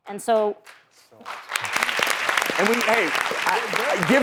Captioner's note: applause